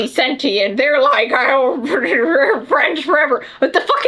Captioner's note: laughs